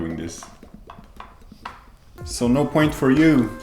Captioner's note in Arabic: أصوات مص